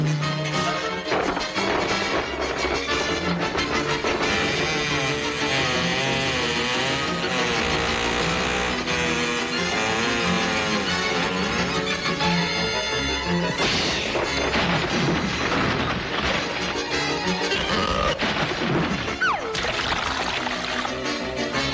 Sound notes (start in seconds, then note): 0.1 barrels rattling; 3.1 barrels swaying squeakily; 6.5 frenzied music; 12.6 Salomi blowing; 18.1 Salomi splashing